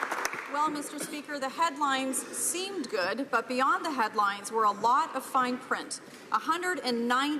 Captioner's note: applause